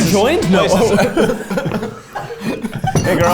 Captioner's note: both laughing